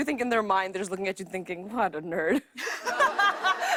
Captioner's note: laughter